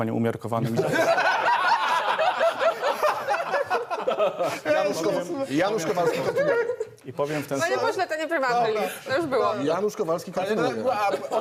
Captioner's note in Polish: Śmiech